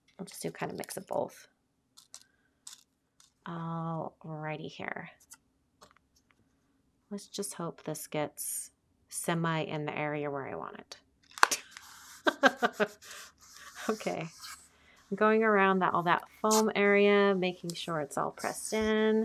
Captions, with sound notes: I'll just do a kinda mix of both. Alrighty here. Let's just hope this gets semi in the area where I want it. (laughing) Okay. I'm going around all that foam area, making sure it's all pressed in.